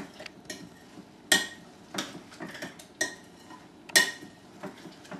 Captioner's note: spoon clangs against bowl